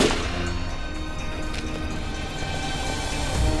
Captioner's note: gunshots